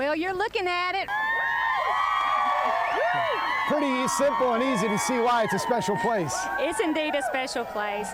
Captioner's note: cheering